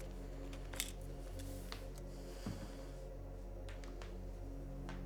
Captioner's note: pensive music; clipboard clanking